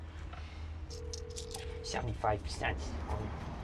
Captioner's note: phone ringing